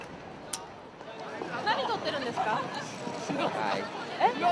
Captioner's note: speaking in foreign language